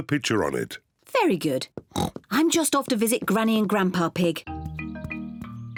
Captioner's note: oinks